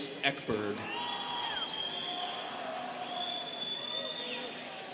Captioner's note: students cheering